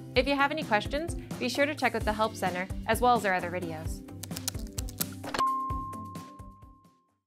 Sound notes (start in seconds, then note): 4.2 keyboard clicking; 4.3 upbeat music